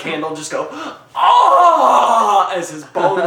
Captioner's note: agonized screaming; laughing